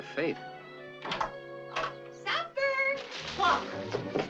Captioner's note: door clicking